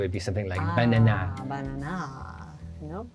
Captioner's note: speaking in a French accent